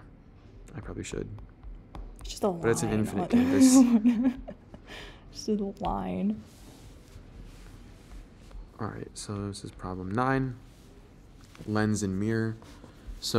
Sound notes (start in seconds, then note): 3.3 laughing